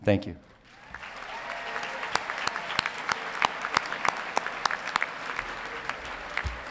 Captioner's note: audience applauding and cheering